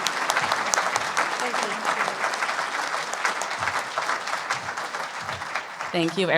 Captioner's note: applause